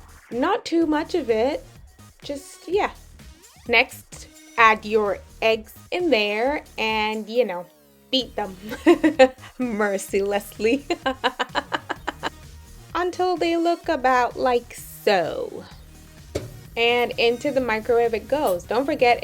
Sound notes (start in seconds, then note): 10.7 laughs